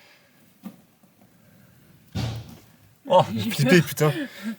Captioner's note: door slamming